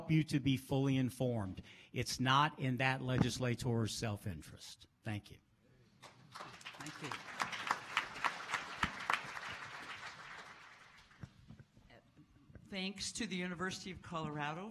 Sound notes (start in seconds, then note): 6.0 applause